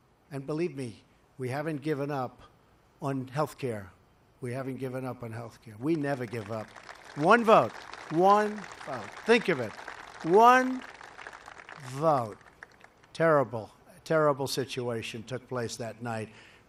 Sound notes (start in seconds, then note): 6.5 applause